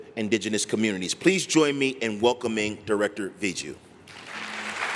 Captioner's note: applause